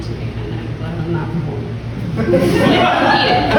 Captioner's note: whispers: Glad I'm not performing